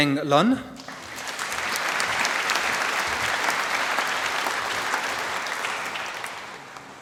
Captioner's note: applause